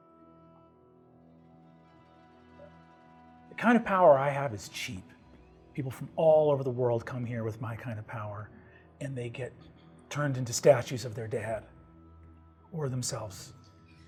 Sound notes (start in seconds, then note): none